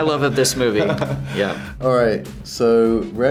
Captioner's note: Josh laughs